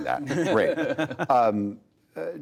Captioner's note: laughter